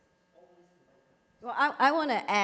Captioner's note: speaks faintly